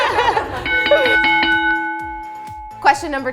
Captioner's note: laughter; bell rings